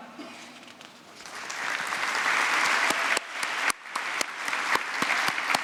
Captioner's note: applause